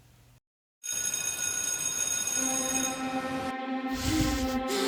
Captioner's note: school bell